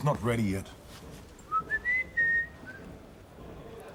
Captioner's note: whistles